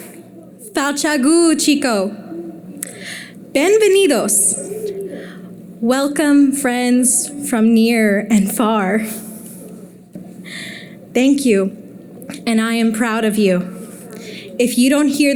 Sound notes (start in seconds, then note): 2.9 foreign Language